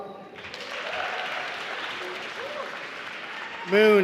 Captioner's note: applause